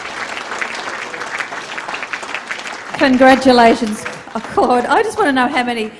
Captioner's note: applause